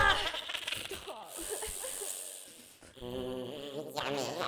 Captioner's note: sniffs